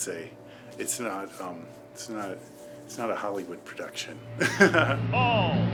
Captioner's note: laughs